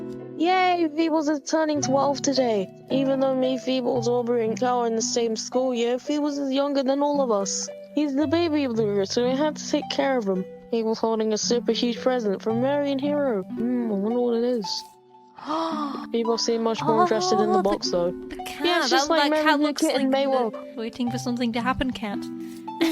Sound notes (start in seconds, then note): 15.4 gasps; 22.7 laughs